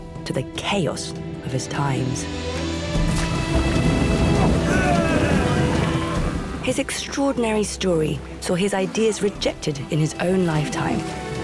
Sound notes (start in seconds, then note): 2.8 triumphant music; 4.2 men grunting